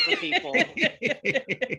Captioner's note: laughter